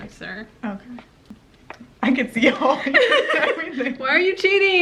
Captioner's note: both giggle